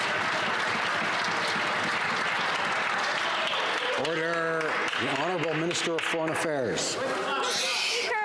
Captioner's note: some Applause